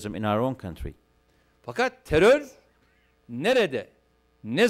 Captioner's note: non-english speech